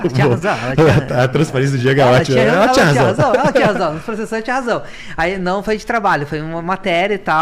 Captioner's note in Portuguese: risadas